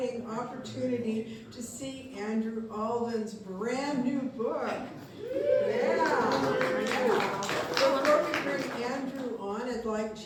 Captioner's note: applause